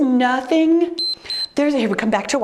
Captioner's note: timer beeps